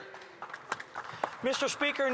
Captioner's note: speaking French